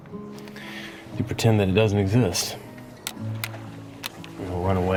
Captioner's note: sunglasses clattering